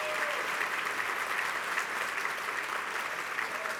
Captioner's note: applause